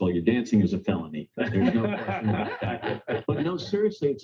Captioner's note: laughter